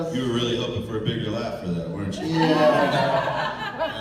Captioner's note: laughter